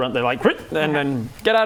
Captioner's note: ribbet